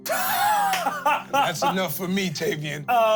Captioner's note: laughs